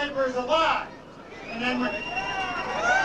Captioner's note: cheers interrupt